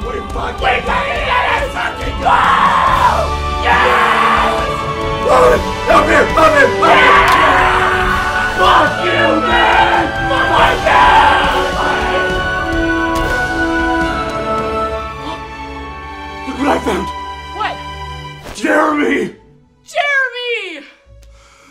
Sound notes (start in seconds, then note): 3.6 both screaming; 15.1 gasps